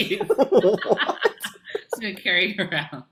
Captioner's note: laughing